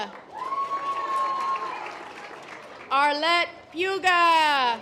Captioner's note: audience applause